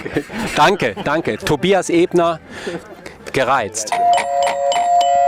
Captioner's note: Klingeling